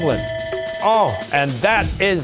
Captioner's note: bell ringing